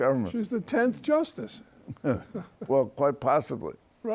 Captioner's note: laughs